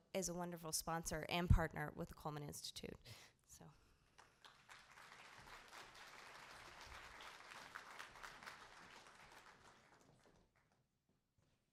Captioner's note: applause